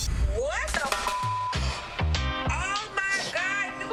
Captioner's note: beep